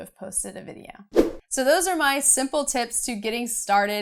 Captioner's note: air whooshing